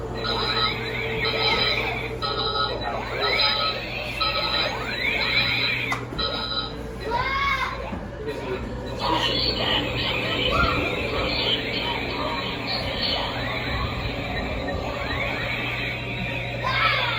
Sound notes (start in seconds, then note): 1.4 alarms beeping